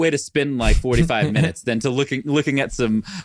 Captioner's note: chuckling